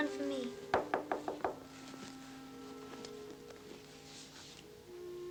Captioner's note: knocking on door